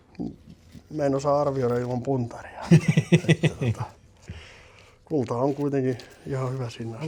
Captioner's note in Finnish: naurua